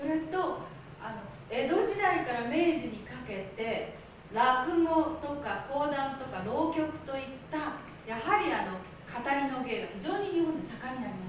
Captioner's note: speaking Japanes